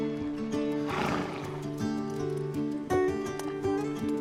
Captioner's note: horse exhales